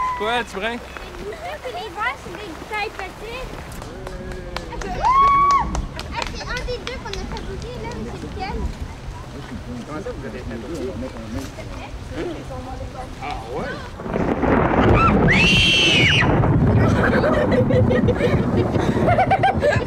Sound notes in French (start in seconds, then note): 3.8 acclamations; 13.7 tonnerre; 14.8 cris de peur; 16.8 rires